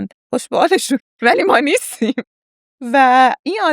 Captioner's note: laughs